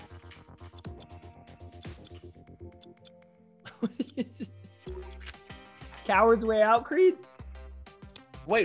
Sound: laugh

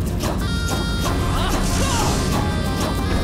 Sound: grunting

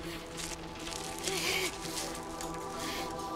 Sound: Googly breathing heavily

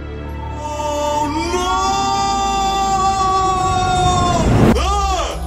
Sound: screaming

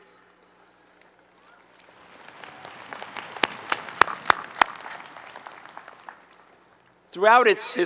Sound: applause

